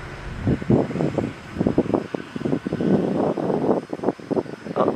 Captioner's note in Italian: il vento ululò